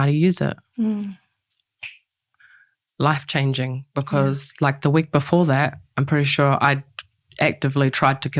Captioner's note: clicks fingers